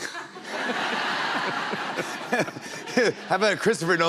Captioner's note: laughter